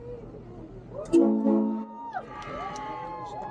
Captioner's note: ship's horn; whooping and cheering